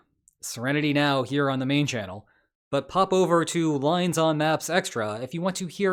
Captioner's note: deep breath